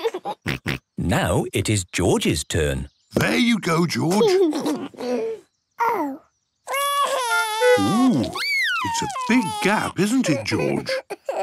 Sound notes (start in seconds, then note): 0.0 laughs; 6.7 cries